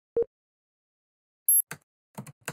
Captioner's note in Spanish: Pitido